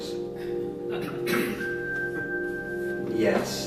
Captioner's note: elevator dings